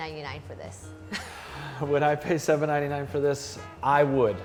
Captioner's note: sighs